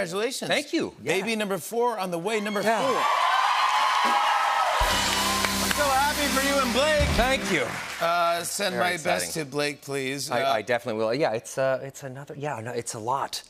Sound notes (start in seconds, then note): 2.6 cheers and applause